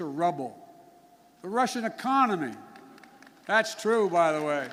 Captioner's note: applause